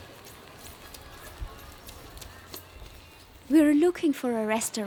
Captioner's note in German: Regengeräusch